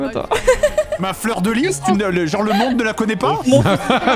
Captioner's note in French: Rire; faussement énervé; rit et répète